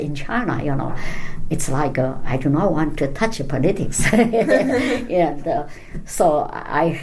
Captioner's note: laugh